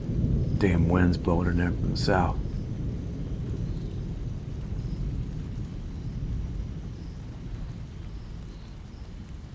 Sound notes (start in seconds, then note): 4.7 the thunderstorm continues